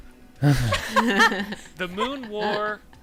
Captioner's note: laughter